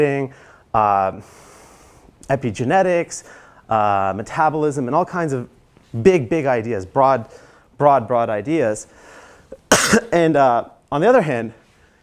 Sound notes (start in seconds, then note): 9.6 cough